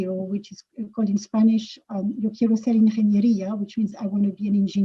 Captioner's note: speaking in Spanish